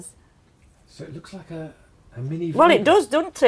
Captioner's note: voiceover